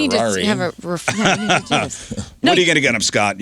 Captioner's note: laughing